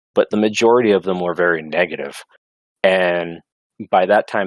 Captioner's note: none